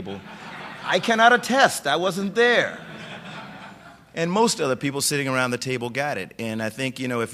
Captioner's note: laughter; laughter